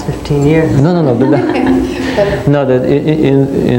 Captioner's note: laughing